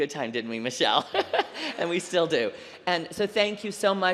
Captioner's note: laughter